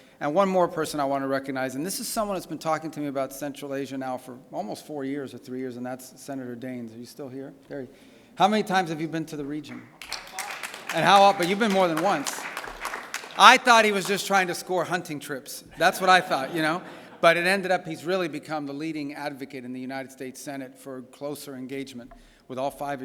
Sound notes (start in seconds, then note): 9.6 applause; 15.7 laughter